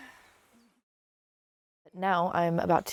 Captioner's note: sighs